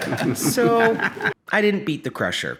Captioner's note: laughing